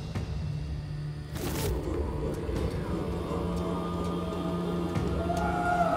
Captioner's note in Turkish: Bağırma sesleri